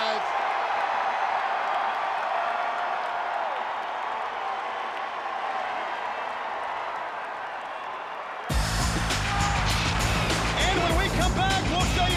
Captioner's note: crowd cheering